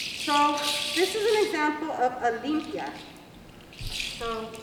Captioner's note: spanish